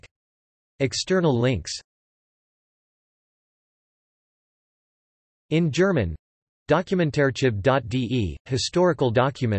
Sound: in German

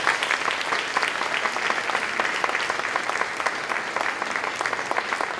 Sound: applause

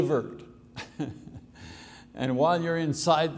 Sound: laughing

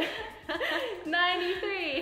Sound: laughs

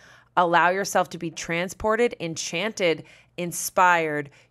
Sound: none

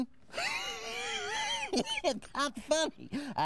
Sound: laughing

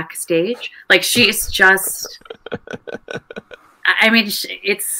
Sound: laughing

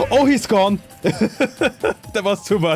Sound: laughs

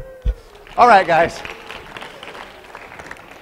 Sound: applause

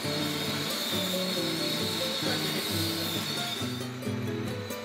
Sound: machine grinding

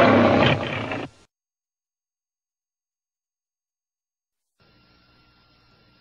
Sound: Leo the Lion roaring; silence

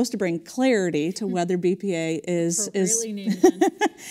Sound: laugh

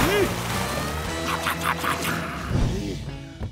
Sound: chomping

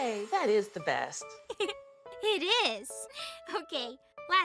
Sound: giggles

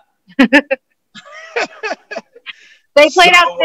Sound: laughter

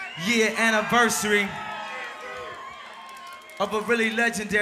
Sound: crowd cheers

